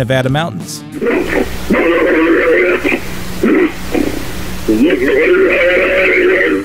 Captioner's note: bigfoots talking in their native tongue